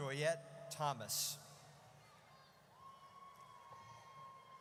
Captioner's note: audience cheers